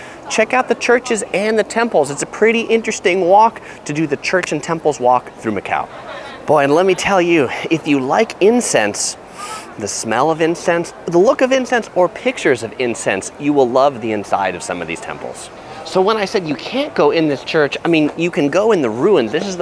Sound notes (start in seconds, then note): 9.2 inhales